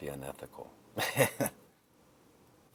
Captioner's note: Kester chuckling